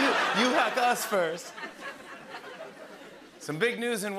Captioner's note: laughter